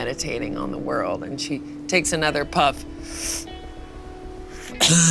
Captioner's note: inhales